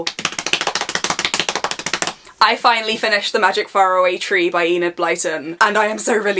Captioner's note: fast clapping on thighs